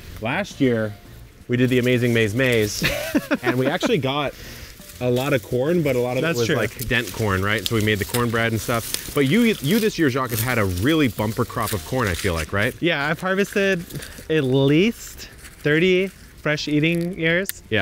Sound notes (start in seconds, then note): 2.7 laughing